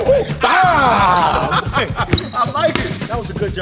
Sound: players celebrating

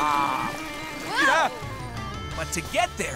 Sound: yelping

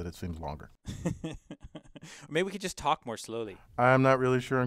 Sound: laugh

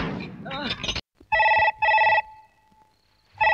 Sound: telephone Ringing

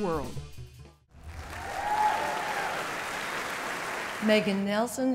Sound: applause

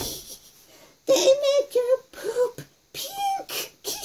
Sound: snickers

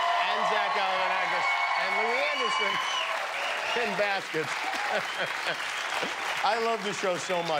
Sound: cheers and applause

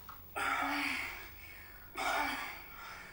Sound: gasping and moaning

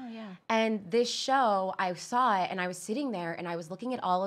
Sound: none

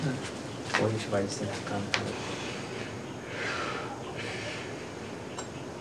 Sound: man speaking in foreign language

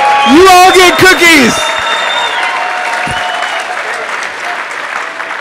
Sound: applause

